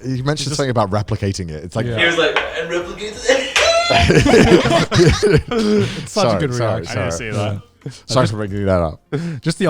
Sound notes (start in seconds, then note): 2.0 laughs; 4.8 everyone laughing